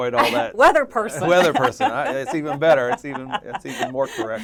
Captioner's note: laugh